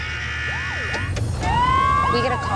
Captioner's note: siren wailing